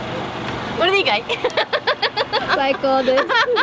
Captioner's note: laughter